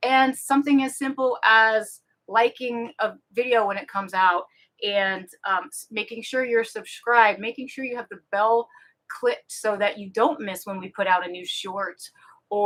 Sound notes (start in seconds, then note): none